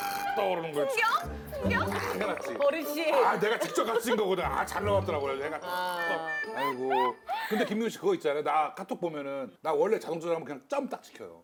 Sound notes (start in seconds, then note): 5.2 nothing but laughing